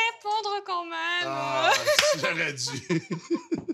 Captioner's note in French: rires